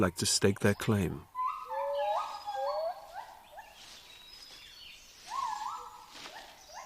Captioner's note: monkeys howling